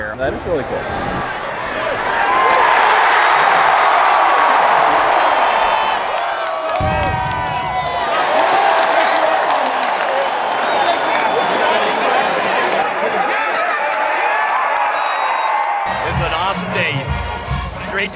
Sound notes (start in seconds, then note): 2.8 cheering; 14.8 whistle blowing